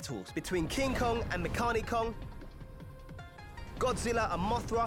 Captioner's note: none